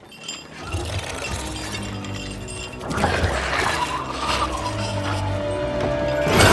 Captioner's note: chains clink; eerie music